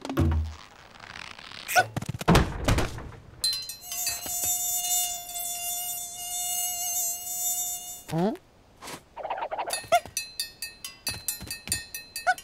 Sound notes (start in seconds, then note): 3.8 mosquito buzzing